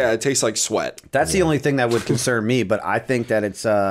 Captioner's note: chuckle